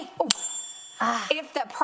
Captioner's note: bell ringing